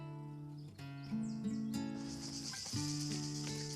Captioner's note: gentle guitar music; insects buzz